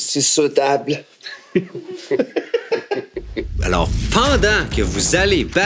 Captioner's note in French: rires